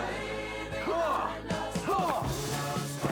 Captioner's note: grunting